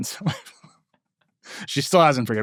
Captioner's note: laughing